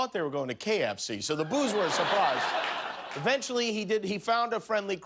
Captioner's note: cheers and applause